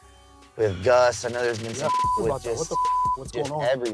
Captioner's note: beep